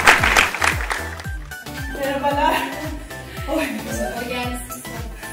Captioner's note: applause